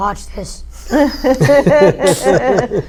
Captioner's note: laugh